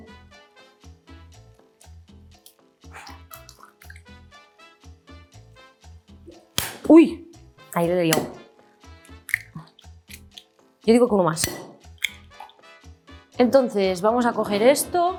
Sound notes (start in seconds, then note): 6.6 egg smacks; 6.6 speaks in Spanish